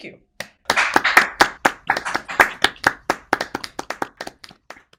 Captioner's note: group applauds